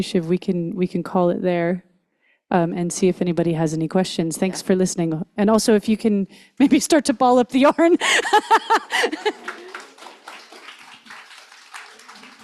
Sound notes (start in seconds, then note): 7.6 laughs; 8.7 audience applauds